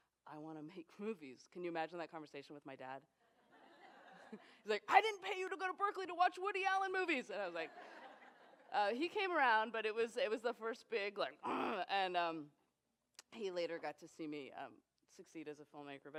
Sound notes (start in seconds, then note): 11.7 growls